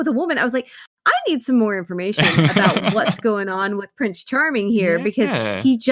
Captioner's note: laughs